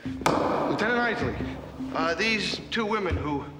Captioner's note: gavel bangs